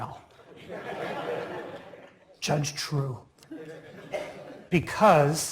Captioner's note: laugh